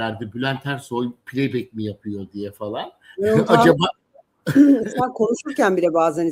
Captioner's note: kahkaha